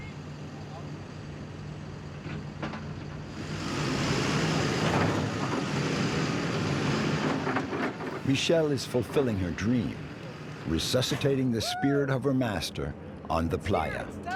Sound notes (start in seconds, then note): 2.8 machinery clanking